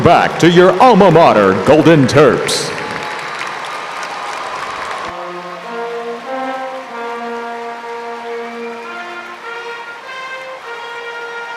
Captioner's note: applause